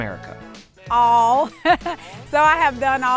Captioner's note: chuckles